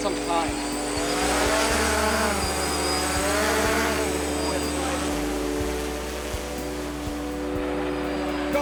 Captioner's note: blades rotating